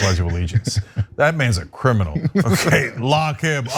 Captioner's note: laugh